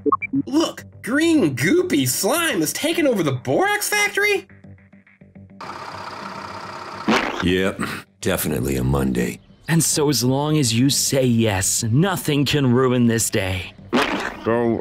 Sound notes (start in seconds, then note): 5.6 engine running; 7.1 slime squishing